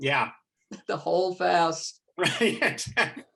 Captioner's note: laughing